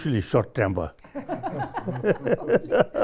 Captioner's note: all laugh